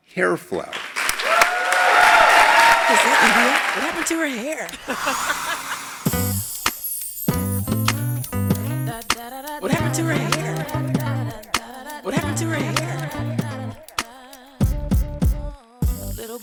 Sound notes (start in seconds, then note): 0.6 applause; 5.0 laugh